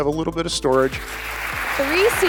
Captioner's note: crowd applauding